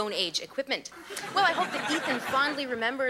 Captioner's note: audience laughing